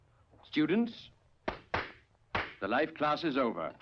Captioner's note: clapping